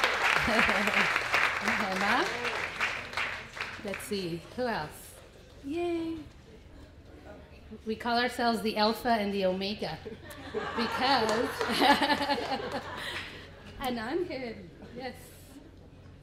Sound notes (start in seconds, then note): 10.1 laughter